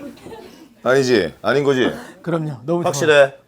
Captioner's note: haha